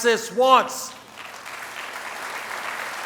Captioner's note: applause